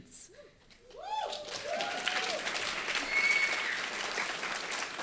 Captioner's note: audience applauding